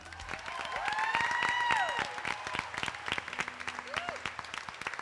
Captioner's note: attendees applauding